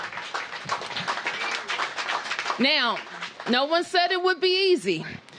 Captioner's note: applause